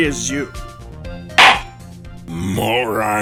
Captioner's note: gavel slams!